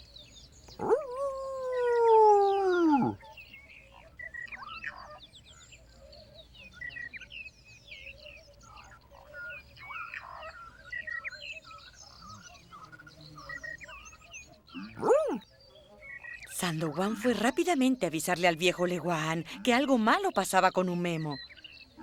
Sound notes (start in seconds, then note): 0.7 howls; 14.8 howls